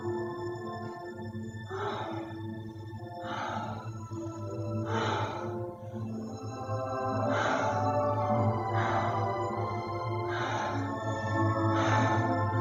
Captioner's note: breathing heavily